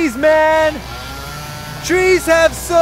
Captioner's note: chainsaw